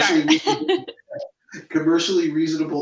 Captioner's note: laughs